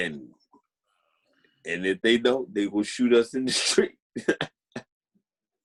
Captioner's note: laughing